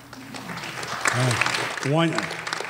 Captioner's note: applause